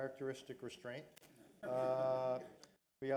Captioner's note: laughter